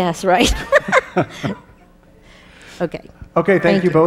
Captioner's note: laughing